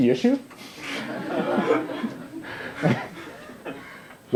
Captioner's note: laughter